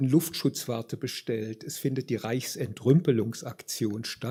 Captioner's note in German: none